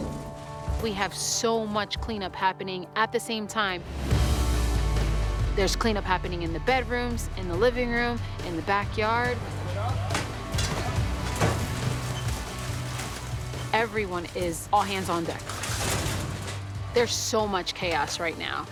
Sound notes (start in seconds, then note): 4.1 upbeat music playing; 9.6 indistinct chatter